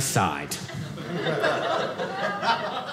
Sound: audience laughing

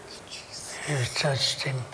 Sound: whispered

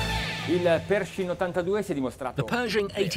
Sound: speaking Italian

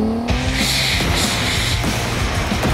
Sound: hisses; heavy metal music

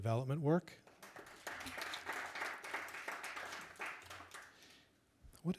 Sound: audience applauding

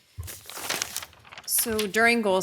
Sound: paper crinkles

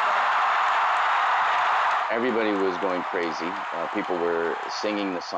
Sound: cheers and Applause

